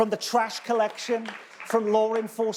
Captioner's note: audience clapping